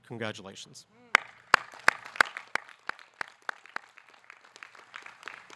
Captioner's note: audience clapping